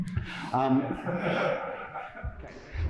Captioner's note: laughter